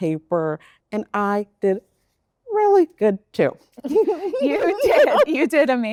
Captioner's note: both laugh